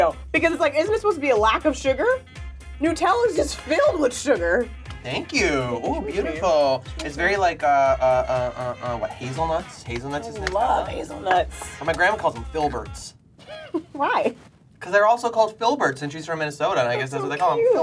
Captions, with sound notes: Because it's like, isn't it supposed to be a lack of sugar? Nutella's just filled with sugar. - Thank you. Oh, beautiful. It's very like. (stutters) Hazelnuts? Hazelnuts is Nutella? - I love hazelnuts. - Well my grandma calls them filberts. (giggles) - Why? - 'Cause they're also called filberts and she's from Minnesota and I guess that's what they call them.